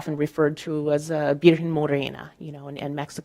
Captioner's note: speaking in Spanish